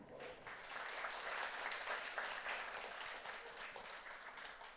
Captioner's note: audience applauds